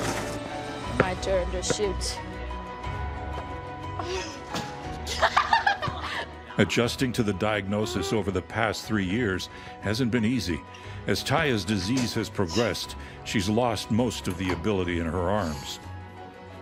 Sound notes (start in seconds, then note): 5.1 laughing